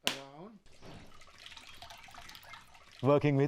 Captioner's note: coconut water sloshing